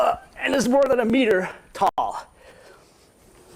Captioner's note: groans